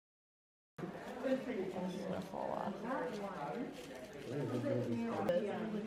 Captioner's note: people chattering indistinctly